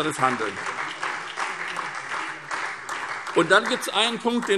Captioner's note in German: Beifall